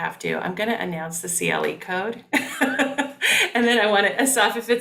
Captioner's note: laughing